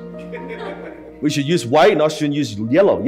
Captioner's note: audience laughing